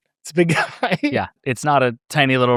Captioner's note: laughs